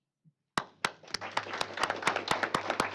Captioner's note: applause